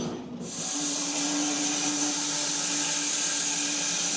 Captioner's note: saw whirring